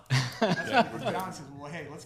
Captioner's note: laughing